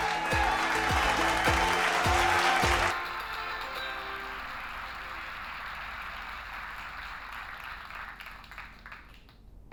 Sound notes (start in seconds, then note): 0.5 applause, cheering; 3.3 cheering continues